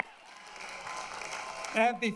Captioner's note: applause